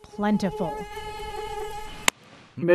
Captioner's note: mosquito buzzing